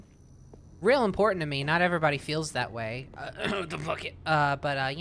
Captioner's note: clears throat